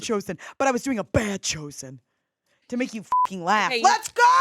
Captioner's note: beep